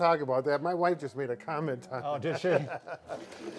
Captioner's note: laughs